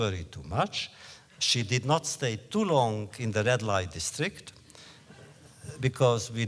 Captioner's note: laughter